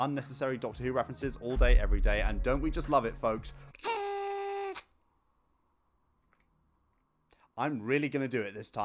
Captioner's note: party whistle